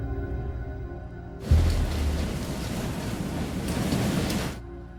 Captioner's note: wind gushing